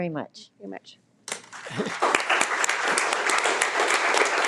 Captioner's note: all applauding